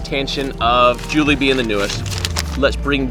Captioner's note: paper rustling